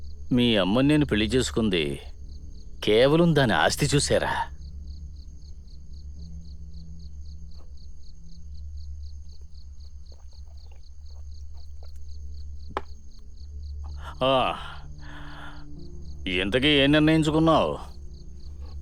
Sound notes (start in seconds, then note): 4.8 crickets chirp; 12.7 glass thuds